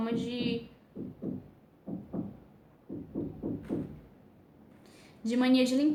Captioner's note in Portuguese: batidas na parede